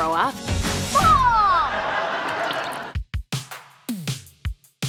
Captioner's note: audience laughs; upbeat music